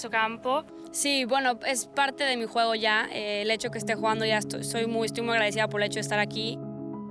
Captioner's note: woman speaking in foreign language